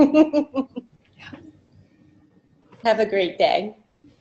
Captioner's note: laughter